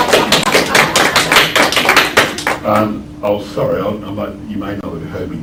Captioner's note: applause